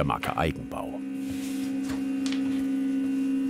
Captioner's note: soft humming